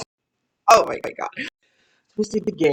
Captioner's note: laughing